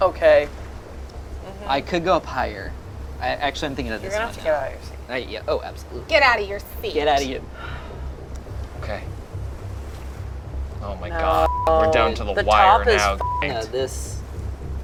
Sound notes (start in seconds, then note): 11.2 beep